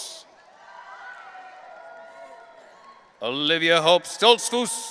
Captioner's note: audience cheering